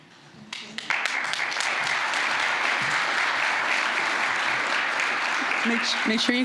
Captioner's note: applause